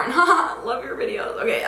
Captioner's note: chuckles